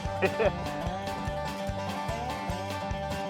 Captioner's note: laughs